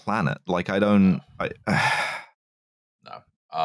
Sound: sighs

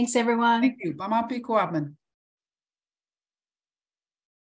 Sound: speaking foreign language

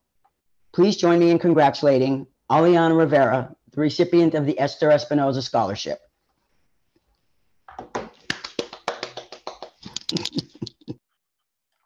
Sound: claps

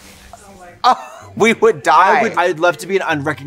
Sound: laughing

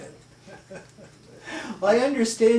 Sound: chuckles

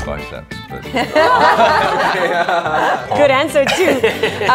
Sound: haha

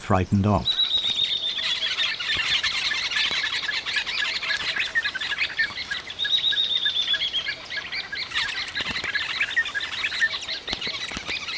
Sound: birds chirping

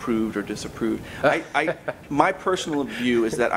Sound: laughs

